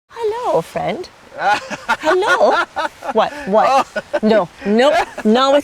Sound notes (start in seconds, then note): 1.3 laughing